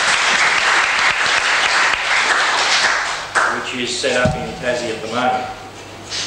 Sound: applause

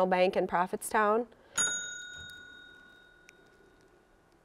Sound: bell dinging

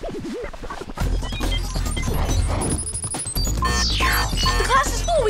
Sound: beeping

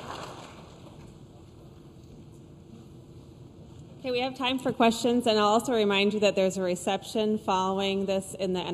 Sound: applause

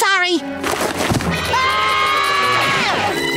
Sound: screaming

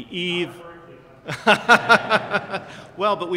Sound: laughs

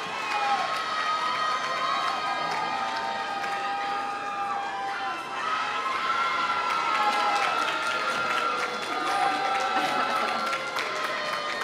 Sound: applause

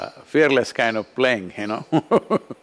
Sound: laughs

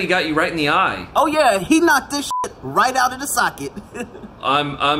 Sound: beep

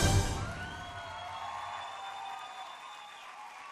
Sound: aplausos

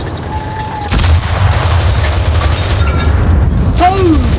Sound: driving + Sounds of Battle; sounds of 11 people getting blown up

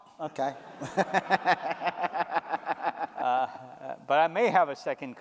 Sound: laughter

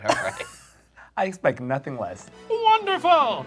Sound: laughing; laughs

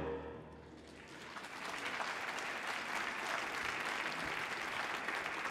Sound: audience applauding

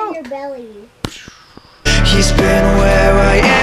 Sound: kisses; makes whooshing sound

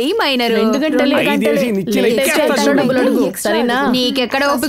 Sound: indistinct chatter

